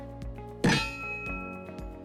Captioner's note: pop